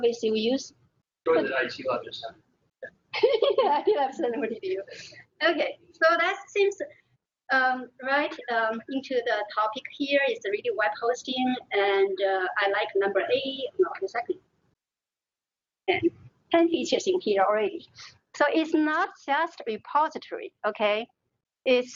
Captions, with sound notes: So obviously, we use (talking) - I think that's one point of view. Okay, so that leads right into the topic here, is the web hosting and I like number eight. 10, 10 pieces are here already. So, it's not just repositories, okay?